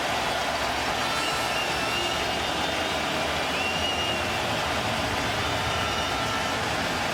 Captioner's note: cheering and Applause